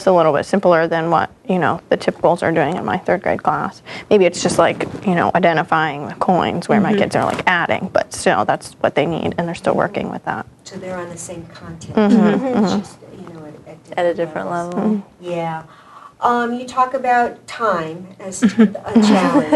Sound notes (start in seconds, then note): 13.6 general agreement